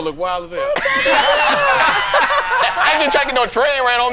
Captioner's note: all laughing